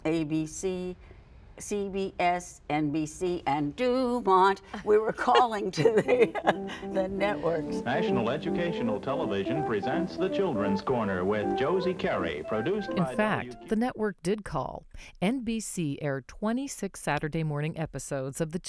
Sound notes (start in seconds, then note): 5.2 laughs; 5.2 interviewer laughs